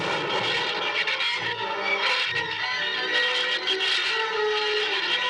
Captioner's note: gunshot